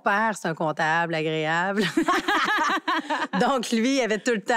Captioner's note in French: rires